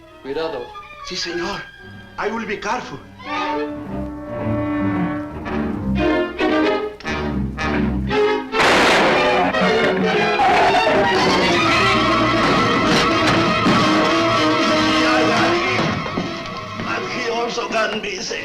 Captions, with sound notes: (Thorne speaks Spanish) - Si, senor. I will be careful. (gun fires) (shrew snarls) (dramatic orchestral music) (Mario speaks Spanish)